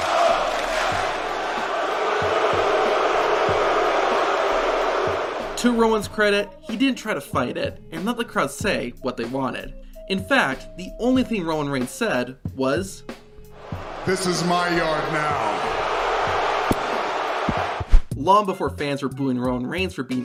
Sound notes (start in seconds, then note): 1.8 crowd booing; 15.6 crowd booing